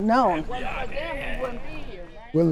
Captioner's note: group chattering